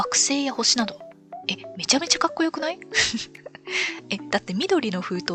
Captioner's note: laughs